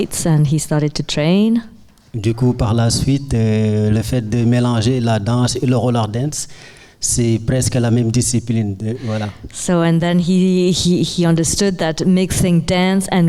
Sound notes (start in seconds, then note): 2.1 speaking in French